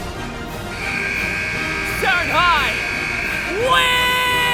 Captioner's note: buzzer goes off